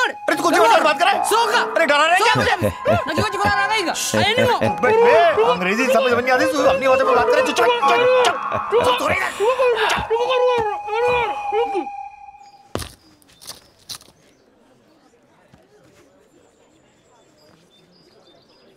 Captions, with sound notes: What are you saying? [Laughs] I don't understand English and you are talking in some other language.